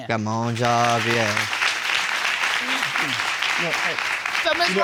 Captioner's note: audience applause